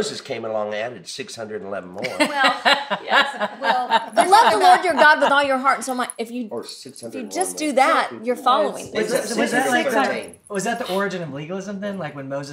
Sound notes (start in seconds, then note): 2.0 laughs